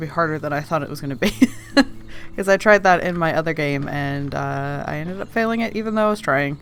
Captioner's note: laughs